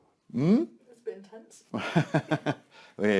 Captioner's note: laughing